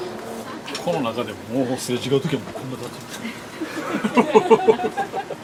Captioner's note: laughs